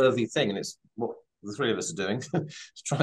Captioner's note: chuckles